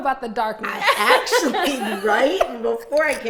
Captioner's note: laughing